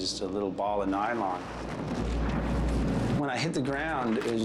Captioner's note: wind whooshes